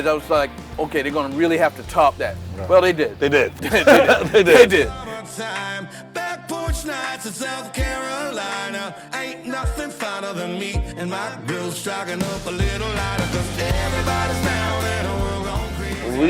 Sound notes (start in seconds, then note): 3.3 laughing